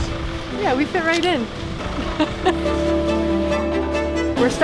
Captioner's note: laughs